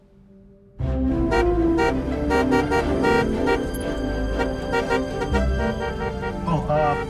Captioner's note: upbeat music; horn honking